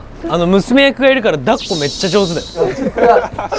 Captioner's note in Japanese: 効果音 シャキーン✨